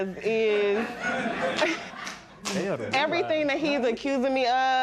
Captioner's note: laughter